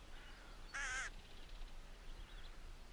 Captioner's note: crow singing